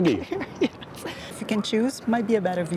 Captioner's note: laughs